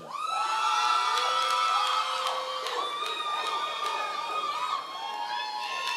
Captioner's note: members of the audience cheering